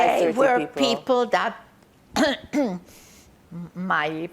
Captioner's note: clears throat